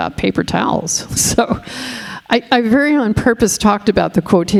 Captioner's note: laughs